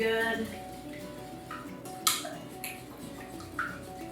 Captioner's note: splashing